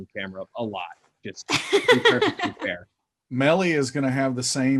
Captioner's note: laughing